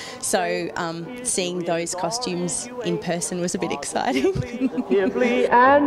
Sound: laughs

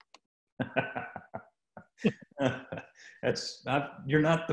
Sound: laughing

